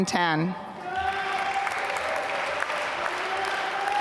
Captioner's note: applause